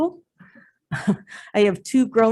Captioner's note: chuckles